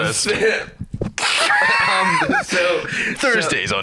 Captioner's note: both laughing